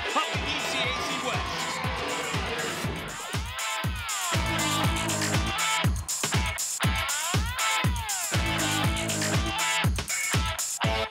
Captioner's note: cheers; horn blows